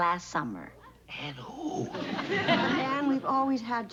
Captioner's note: whispering